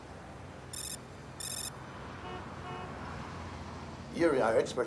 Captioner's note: car alarm